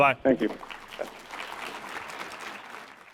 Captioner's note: applause